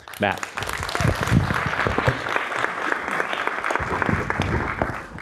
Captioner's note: audience applauds